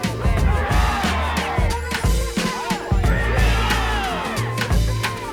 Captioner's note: marchers chant "Freedom! Freedom!"